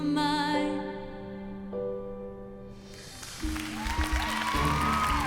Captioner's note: cheering